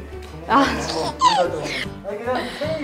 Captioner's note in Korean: 웃음